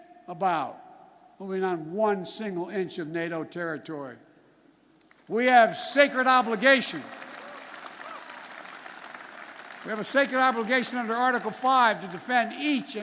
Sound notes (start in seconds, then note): 8.8 applause